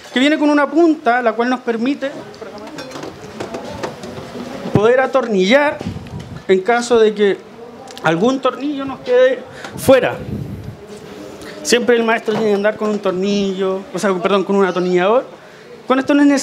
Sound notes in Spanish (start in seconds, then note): none